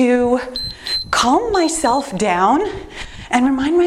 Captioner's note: timer beeps